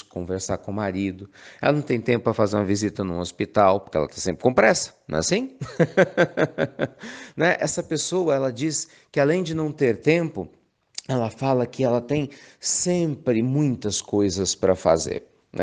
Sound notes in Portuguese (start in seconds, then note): 5.6 Risos